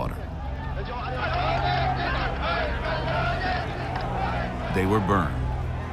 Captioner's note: chanting, yelling